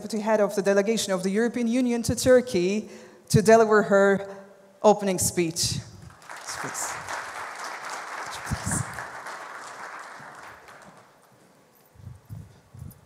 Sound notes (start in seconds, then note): 6.0 applause